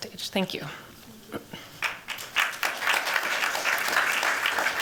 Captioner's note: applause